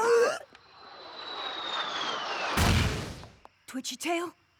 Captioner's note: gasps; whistle!